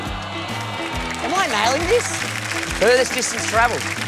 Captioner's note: applause